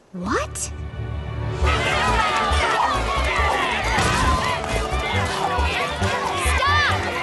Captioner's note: shouts